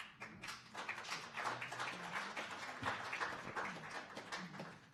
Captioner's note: sporadic applause